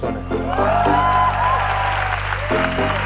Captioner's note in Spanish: Aplausos